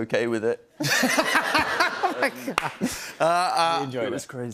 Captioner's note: laughter